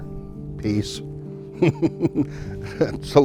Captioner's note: laughing